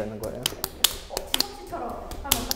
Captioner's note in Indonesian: Tap tap